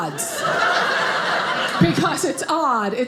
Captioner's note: audience laughing